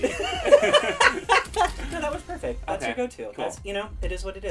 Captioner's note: laughs